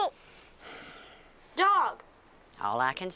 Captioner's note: Jolene sighs